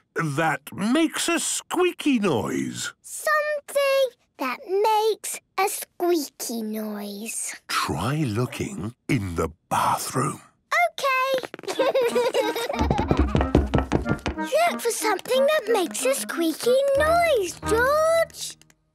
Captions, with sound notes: ...that makes a squeaky noise! - Something... that makes.. a squeaky noise. - (whispering) Try looking... in the bathroom. - Okay! - (Peppa and George laughing) - (loud footsteps) - Look for something that makes a squeaky noise, George!